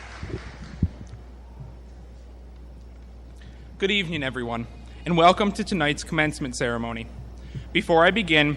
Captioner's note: applause